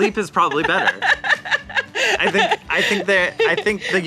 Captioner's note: laughs